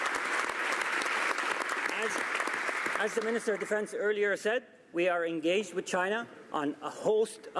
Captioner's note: some Applause